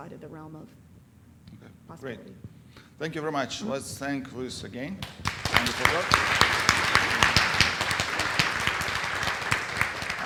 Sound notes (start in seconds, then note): 5.0 applause